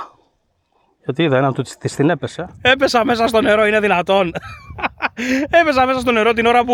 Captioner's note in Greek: γέλια